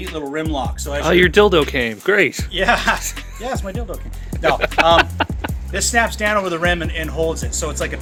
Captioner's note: chuckles